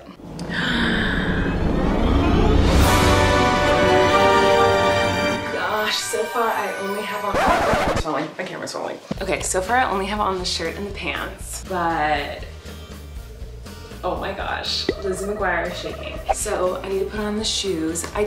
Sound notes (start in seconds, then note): 1.1 magical music; 7.4 record scratch